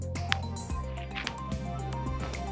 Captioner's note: hand tapping; hand whooshing